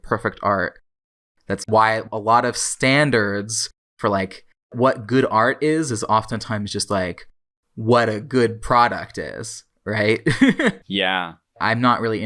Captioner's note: laughs